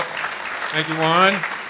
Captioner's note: applause